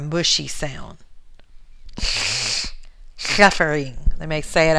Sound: lateral lisp

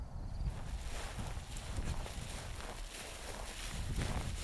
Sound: ground cover crunching

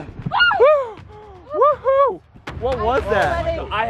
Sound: screaming

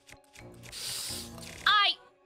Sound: sharp Inhale

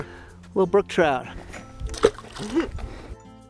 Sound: plop!

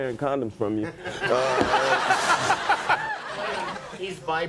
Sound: audience laughing

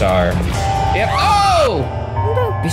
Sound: Agatha screams

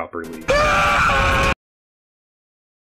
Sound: deafening scream

